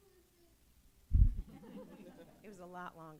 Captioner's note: laughter